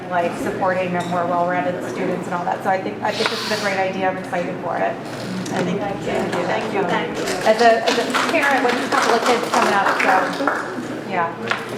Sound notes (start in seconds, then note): 7.2 applause